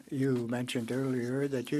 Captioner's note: speaking French